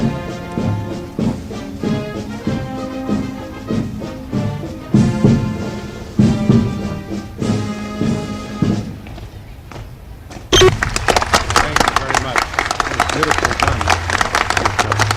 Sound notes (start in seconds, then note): 10.6 audience applauding